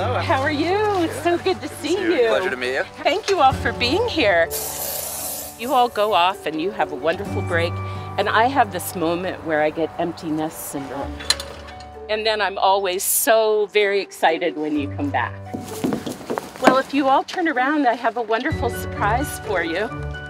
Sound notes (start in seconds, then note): 14.2 footsteps and hoofsteps